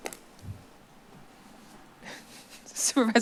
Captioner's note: rustles; chuckles